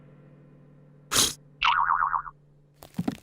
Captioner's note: blows